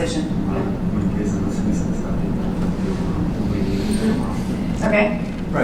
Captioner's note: non-english speech